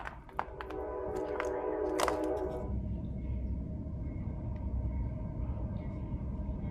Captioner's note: incoming train